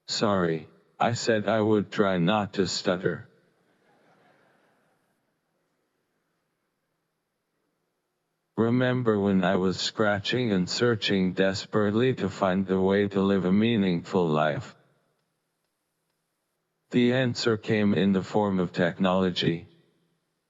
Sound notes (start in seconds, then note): 4.0 audience laughing